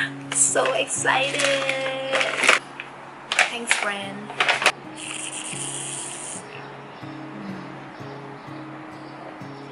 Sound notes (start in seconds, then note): 5.0 sipping loudly